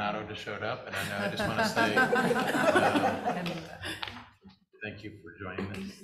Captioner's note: chuckling